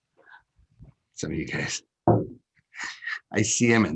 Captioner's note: chuckles